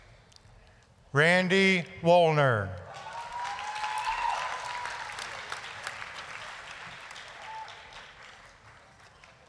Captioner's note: applause, cheering